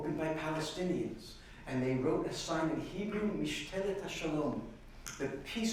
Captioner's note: speaking hebrew